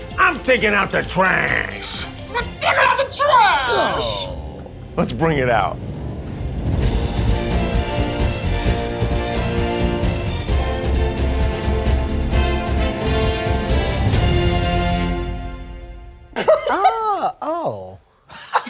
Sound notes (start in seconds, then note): 7.3 dramatic music; 16.4 Rosanna laughs